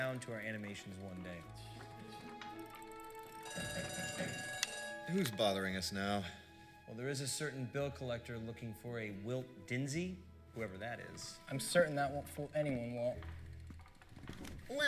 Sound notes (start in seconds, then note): 5.0 door bell rings